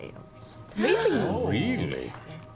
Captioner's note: gasps